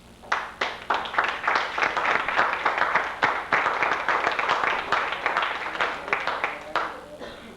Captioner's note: applause